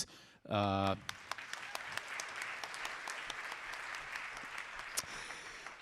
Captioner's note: audience applauding